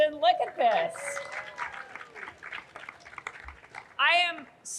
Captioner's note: audience cheering